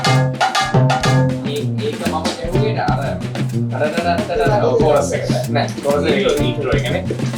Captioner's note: humming